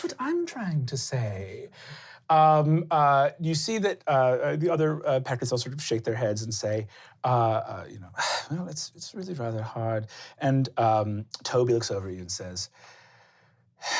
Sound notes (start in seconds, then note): 8.3 sighing